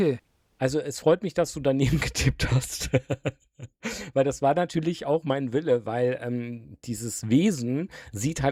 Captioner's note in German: gelächter